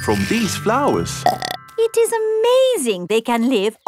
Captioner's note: burps